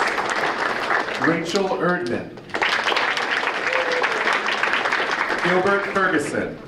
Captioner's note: audience applauding